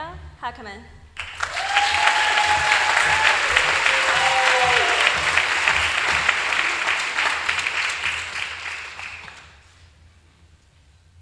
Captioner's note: applause